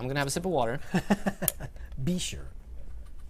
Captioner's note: laughs